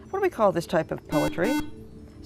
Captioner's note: buzzer